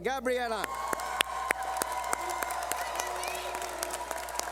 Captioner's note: cheering